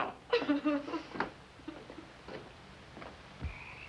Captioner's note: crying